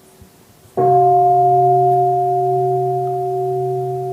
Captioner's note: bell